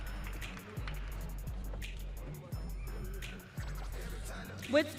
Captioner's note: audience cheering